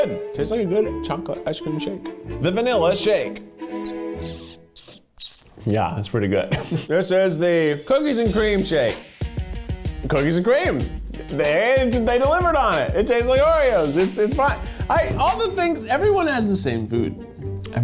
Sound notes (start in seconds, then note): 6.5 laughing